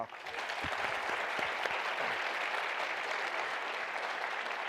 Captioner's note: applause